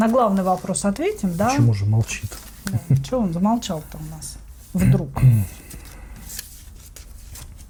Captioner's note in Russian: откашливается